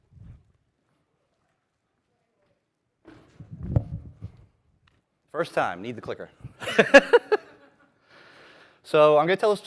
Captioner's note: laughter